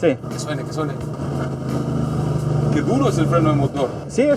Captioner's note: engine breaking